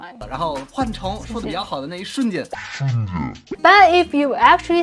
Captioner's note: speaking in Mandarin